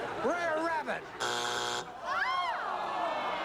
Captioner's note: buzzer